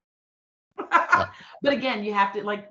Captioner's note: laughing